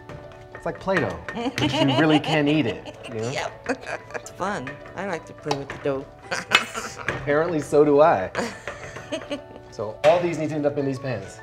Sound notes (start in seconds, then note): 1.4 laughs; 6.3 laughs; 8.3 laughs